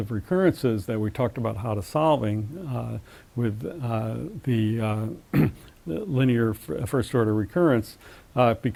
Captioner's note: cough